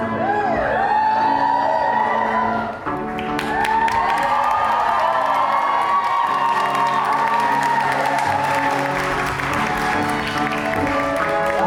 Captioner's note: audience claps and cheers